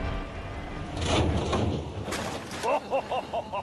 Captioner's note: clattering; james laughs